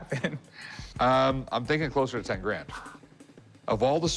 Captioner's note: laughs